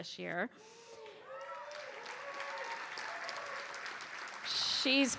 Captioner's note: cheers and applause